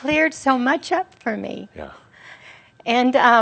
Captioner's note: voice cracking